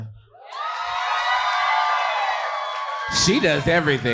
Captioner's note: audience cheering